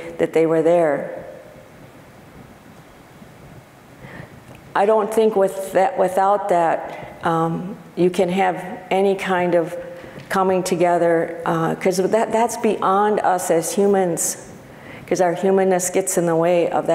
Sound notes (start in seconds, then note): none